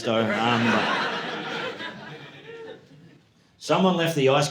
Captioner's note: audience laughing